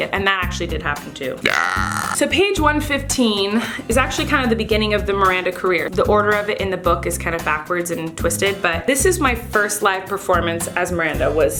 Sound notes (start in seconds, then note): 1.4 burping